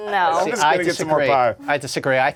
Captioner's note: laughing